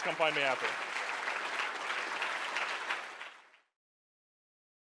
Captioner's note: audience applause